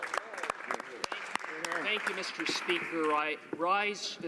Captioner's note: some Applause